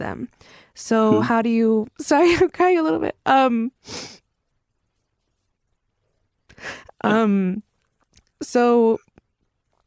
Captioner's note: tearfully